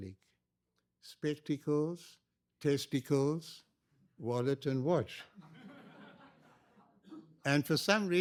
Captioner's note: laughter